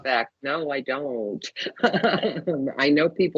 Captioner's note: laughing